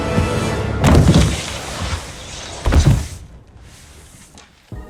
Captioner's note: Sad Dakota Johnson noises